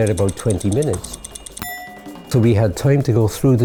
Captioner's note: tick tick tick tick tick